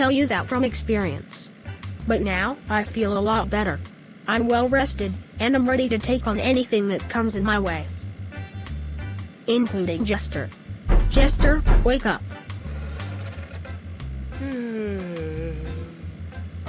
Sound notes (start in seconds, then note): 10.9 banging; 14.3 yawning